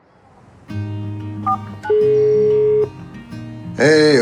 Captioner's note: gentle music; phone beeps